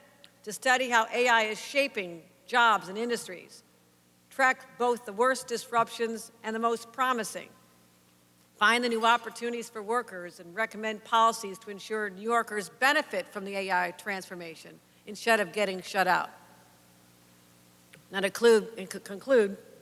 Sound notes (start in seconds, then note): none